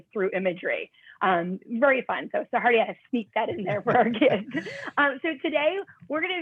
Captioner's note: laughter